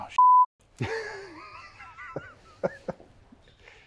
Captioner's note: laughing